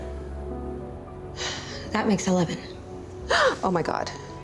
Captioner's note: sighs; gasps